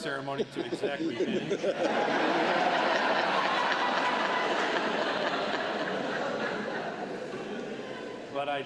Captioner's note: laughter